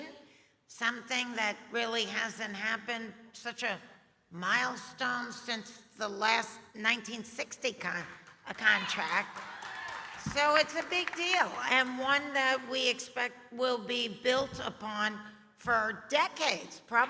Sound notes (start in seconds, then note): 8.9 audience applauding